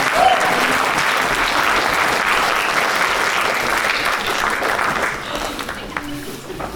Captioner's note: applause